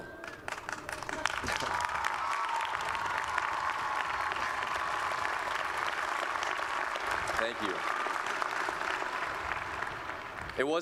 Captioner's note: applause